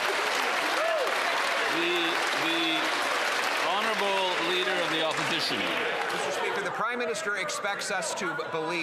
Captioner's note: some Applause